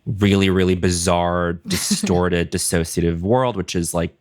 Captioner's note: laughs